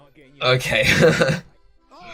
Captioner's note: nervous laughter